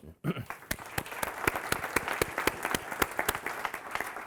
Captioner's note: audience applauding